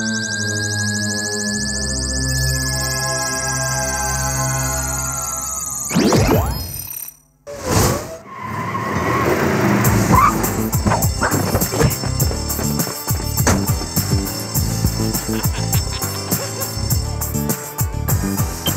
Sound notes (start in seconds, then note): 10.4 school bell; 14.7 laughing